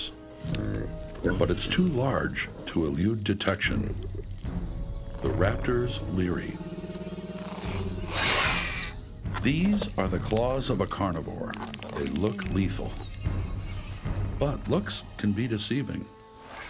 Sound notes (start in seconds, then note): 8.1 hisses